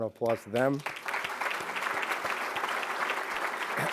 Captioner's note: applause